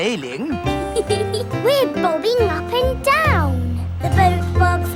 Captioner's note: giggles